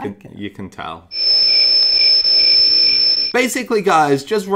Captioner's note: crickets